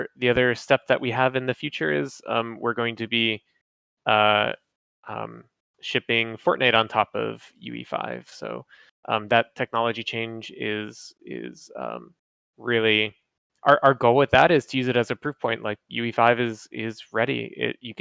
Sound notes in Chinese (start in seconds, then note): none